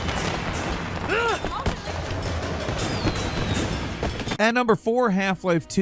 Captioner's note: Wei grunts